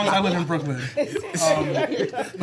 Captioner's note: laughter